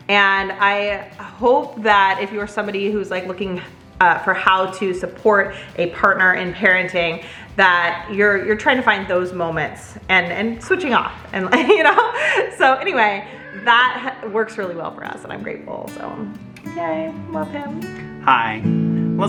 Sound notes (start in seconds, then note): 11.4 laughs; 18.3 guitar strumming